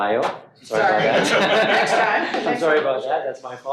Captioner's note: all laughing